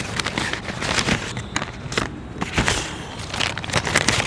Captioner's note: paper scratches